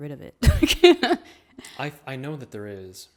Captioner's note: laughs